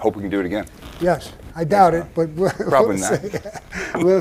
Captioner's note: laughs